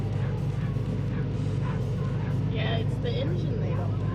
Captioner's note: dogs barking